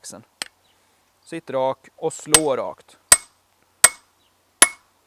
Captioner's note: peening